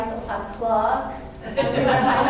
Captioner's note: laughter